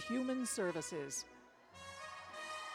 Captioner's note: cheers